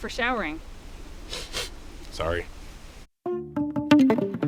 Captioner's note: sniff